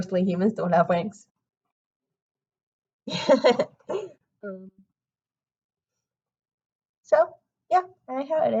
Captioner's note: laughs